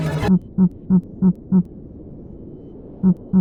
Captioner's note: text beeping